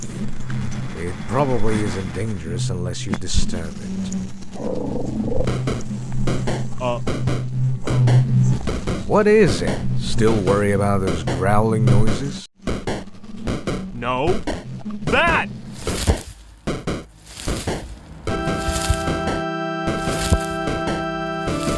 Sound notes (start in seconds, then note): 4.5 once again, another growl; 5.4 danger music